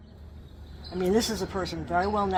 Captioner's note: bird sounds of Stanford campus